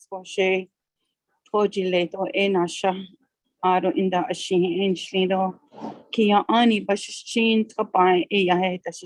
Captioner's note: native language spoken